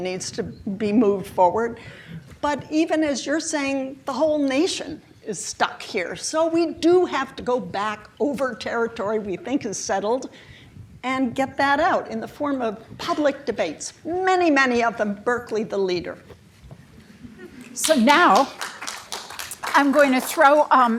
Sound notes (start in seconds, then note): 17.8 applause